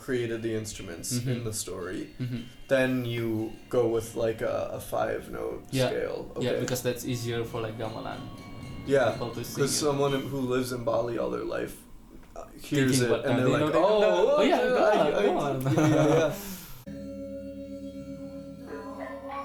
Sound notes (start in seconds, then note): 16.6 laughs